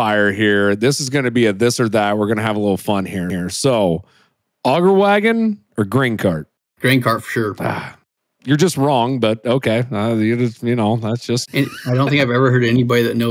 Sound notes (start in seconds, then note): 7.2 groans